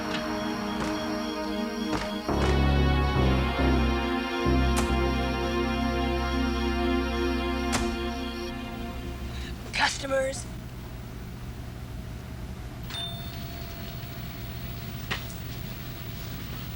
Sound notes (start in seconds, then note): 12.9 bell